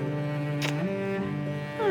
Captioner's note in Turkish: Öpme sesi